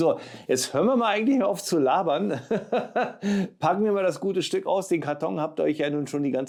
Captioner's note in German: gelächter